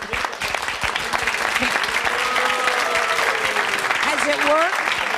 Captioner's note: audience clapping